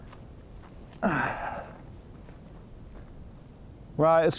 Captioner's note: Adrian grunts